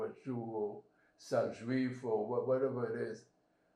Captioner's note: french